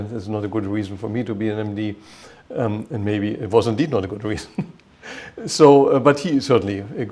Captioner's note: chuckle